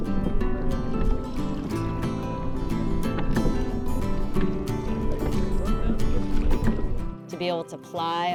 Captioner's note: water rippling